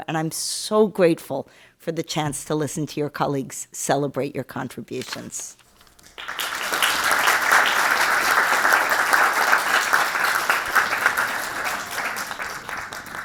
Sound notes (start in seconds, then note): 5.9 audience clapping